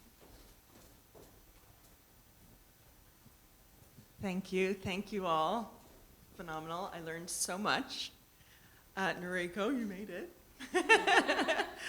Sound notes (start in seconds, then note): 10.6 chuckling